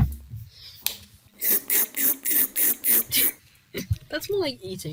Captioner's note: Minecraft slurping impression